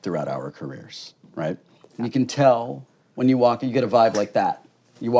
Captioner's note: snaps